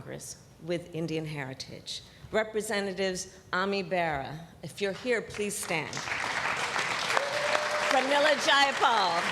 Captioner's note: applause